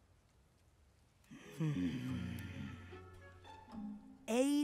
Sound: groaning

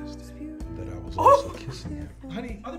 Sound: laughs

